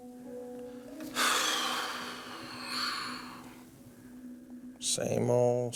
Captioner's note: sighs